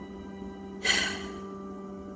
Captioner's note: sigh